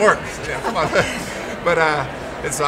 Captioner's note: laughs